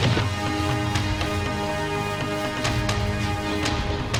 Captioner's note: running footsteps